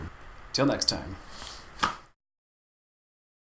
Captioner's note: snap